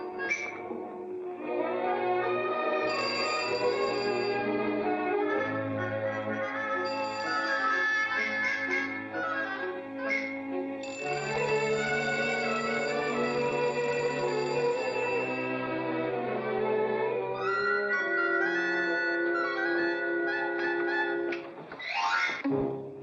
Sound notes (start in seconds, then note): 0.1 upbeat music; 2.8 doorbell rings; 4.0 upbeat music; 6.7 doorbell rings; 8.2 upbeat music; 10.8 doorbell rings; 10.8 upbeat music; 17.3 playful music